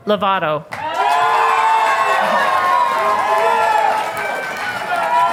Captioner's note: audience applauding